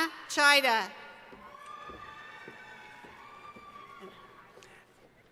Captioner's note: cheering